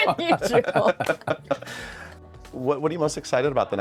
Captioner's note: Ayo and Don laugh